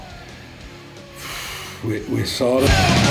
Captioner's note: exhales